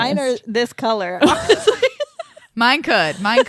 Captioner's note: laughs